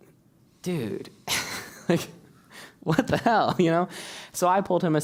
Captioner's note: laugh